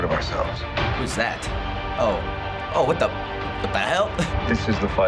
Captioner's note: chuckles